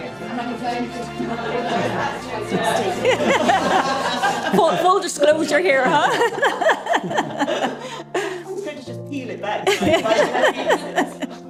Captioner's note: lively conversations